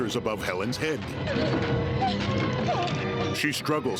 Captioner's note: Helen whimpering; music surging